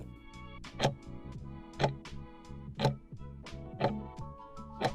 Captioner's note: timer ticking